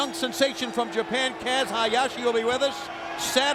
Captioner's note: bell ringing